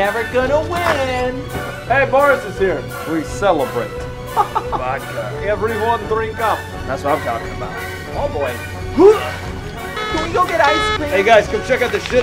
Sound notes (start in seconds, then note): 9.9 alarm